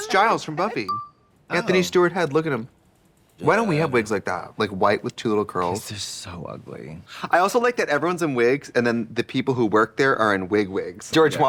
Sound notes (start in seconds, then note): 0.8 pause beep; 3.2 Katya mumbling